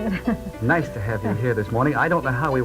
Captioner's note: voiceover